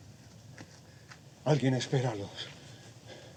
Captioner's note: speaking spanish